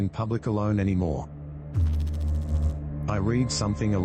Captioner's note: electrical noise